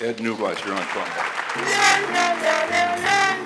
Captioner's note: audience applauding; dramatic trombone music